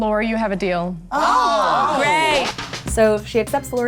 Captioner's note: Sharks exclaim